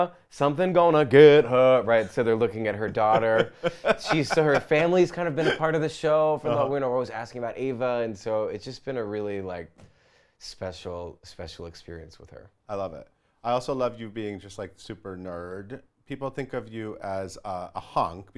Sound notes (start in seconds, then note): 3.0 laughs